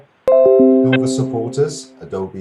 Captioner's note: computer chime